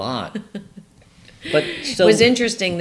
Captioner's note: laughs